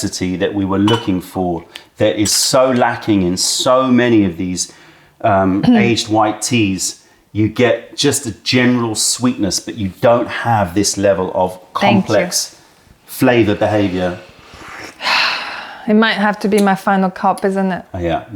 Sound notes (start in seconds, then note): 13.4 sips tea